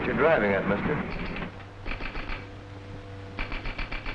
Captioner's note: clicking